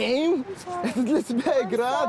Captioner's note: speaking russian